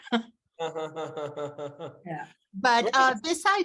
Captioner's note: laughing